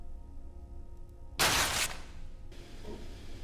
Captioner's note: item breaks